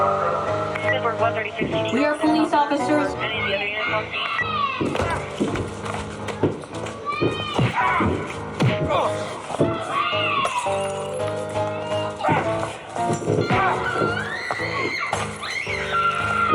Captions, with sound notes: We are police officers! [police radio] [screaming] [sound of door crashing] [suspenseful music] Get away from me! [punching sounds] [screaming] [crying sounds]